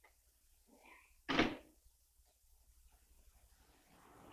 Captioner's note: door thuds